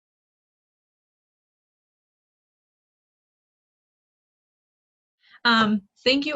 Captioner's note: silence